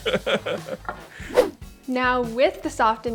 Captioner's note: laughs